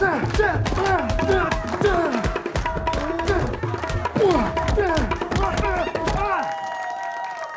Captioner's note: women cheering; cheers and applause